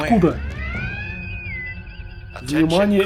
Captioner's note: bosun whistle